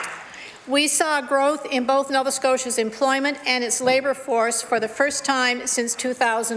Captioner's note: some Applause